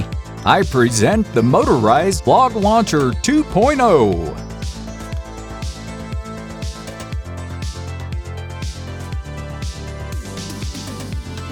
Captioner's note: box announcer's voice